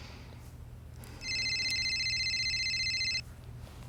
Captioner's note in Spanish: sonido de llamada a un móvil